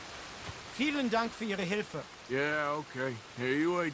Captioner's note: in German